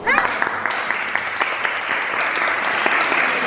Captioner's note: applause